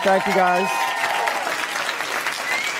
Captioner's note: applause